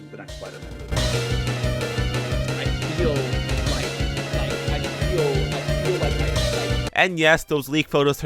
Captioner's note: nervous stammer